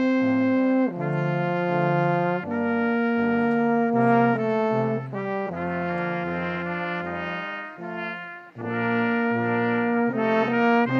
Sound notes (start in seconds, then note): none